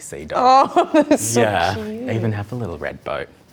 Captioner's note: laughs